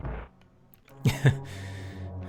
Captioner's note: laughing